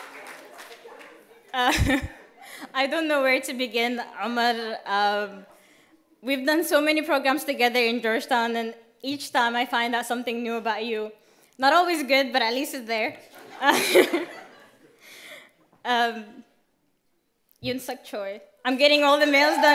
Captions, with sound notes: I don't know where to begin, Ahmald. We have done so many programs together in Georgetown and each time I find out something new about you. Not always good but at least it is there. (laughter) YoonSuk Choi, I'm getting all the males done